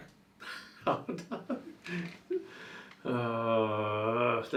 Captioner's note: laughs